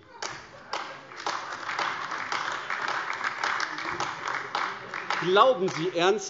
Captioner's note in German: Beifall AfD